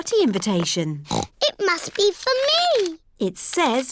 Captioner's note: snorts